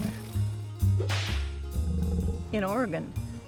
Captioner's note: whip sound